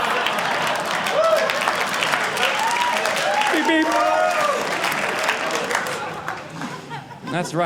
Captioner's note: audience laughing; audience clapping